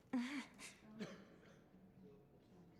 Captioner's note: cough